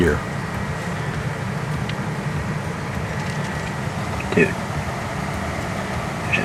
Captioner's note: sound of light wind